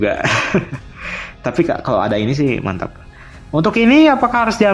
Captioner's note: laughs